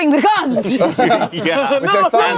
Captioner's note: everyone laughs